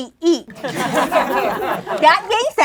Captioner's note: laughing